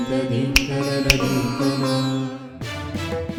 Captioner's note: snapping fingers